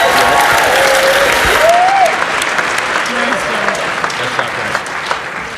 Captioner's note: audience cheers and applauds